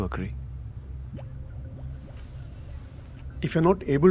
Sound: scoffs

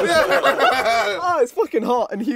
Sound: laughs

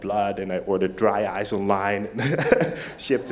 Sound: laughs

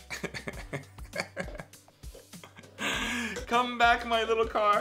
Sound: Mr. C laughing

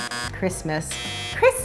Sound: beeping

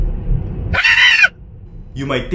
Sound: scream

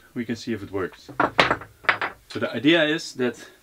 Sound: clanking

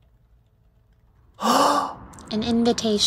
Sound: big gasp

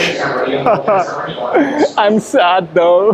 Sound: hollow laugh

